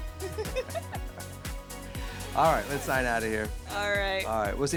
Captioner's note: laughing